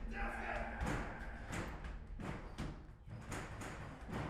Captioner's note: loud banging